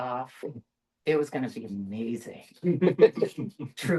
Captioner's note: light laughter